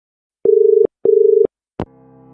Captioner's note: dial tone